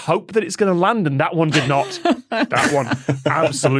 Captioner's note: laugh